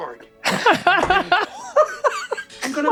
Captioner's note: all laughing loudly